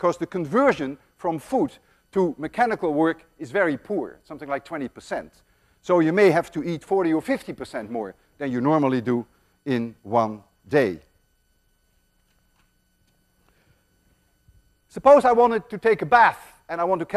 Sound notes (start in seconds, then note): none